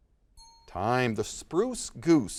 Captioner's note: bell rings